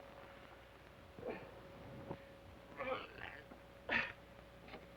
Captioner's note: Sheriff groans